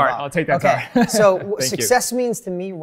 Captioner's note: laughs